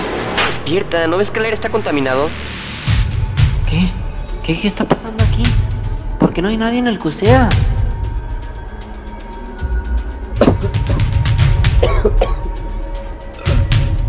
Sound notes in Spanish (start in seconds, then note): 11.7 toser más; 11.7 toser